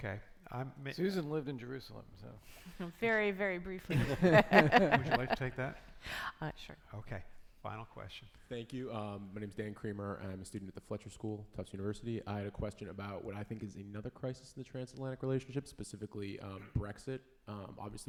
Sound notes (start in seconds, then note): 3.9 panelists laughing